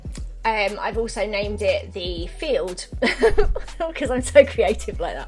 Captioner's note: laughs